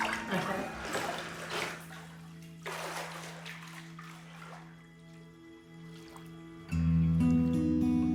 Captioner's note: water splashes